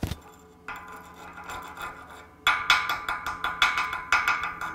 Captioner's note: metal banging